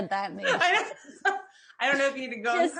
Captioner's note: laughs